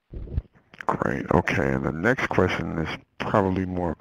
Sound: voiceover

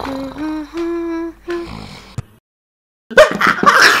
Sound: snoring

